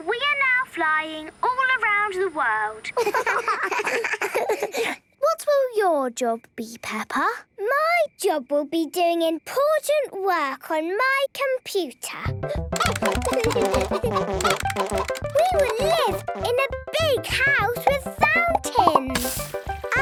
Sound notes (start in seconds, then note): 12.7 keyboard tapping; 12.7 computer game chickens clucking